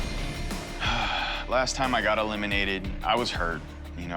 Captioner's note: sighs